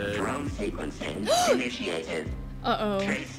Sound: Sabrina gasps

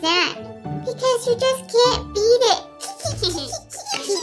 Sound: tee hee hee

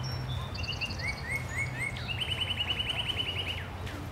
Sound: birds Chirping and Water Flowing

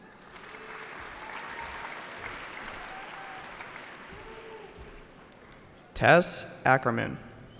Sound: cheering

